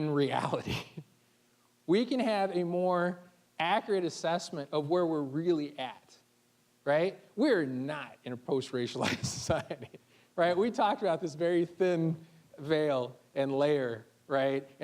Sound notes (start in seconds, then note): 9.0 chuckling